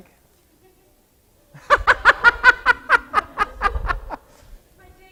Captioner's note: laughing